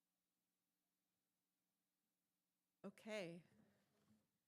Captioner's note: mic off no audio